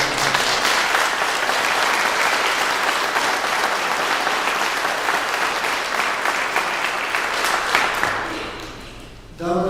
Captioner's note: clapping